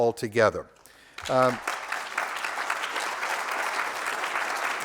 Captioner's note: applause